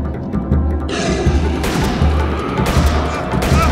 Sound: gutteral roar

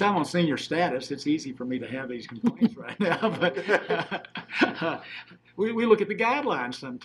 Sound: laughing

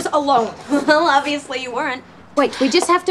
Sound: chuckles

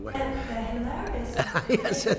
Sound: laughs

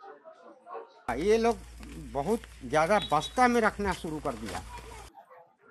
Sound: plastic sack

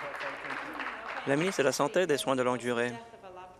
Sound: applause

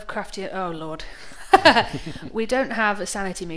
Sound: both laugh

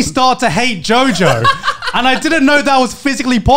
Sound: men laughing

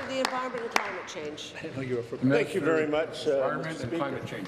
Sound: applause

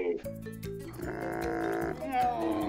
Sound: camel noise

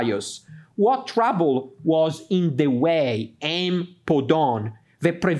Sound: speaks in Greek

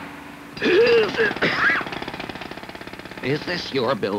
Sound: clattering, sounds of jackhammer; coughs

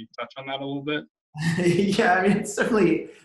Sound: laughs

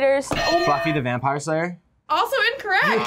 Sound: bell rings

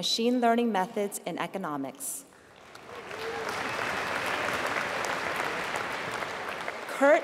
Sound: applause

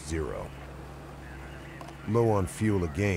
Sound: voiceover

